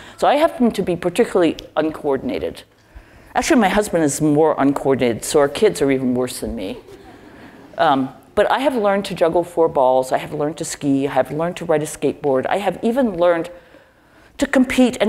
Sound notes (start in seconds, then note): 6.6 laugh